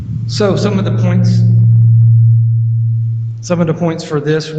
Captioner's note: mic vibrates